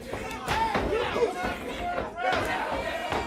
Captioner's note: crowd chatter; crowd cheering